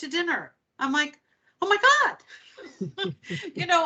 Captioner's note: laughing